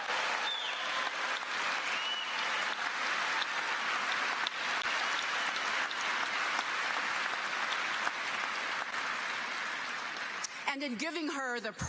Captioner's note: cheers and applause